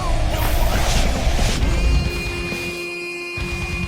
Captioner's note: wind whoosh and dust blowing